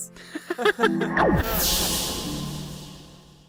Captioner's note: both laugh